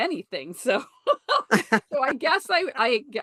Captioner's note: laughter